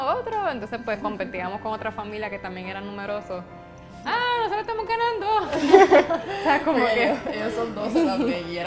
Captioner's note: laughs